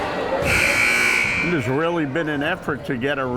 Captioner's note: timer buzzes